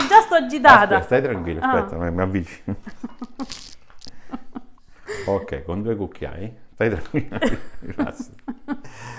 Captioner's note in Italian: Risate